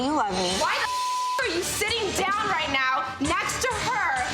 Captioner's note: beep